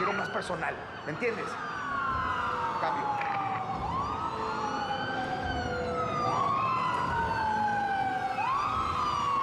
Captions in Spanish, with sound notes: >> QUIERO MÁS PERSONAL, ¿ME ENTIENDES? CAMBIO. [SE OYEN SIRENAS]